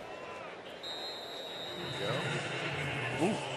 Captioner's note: whistle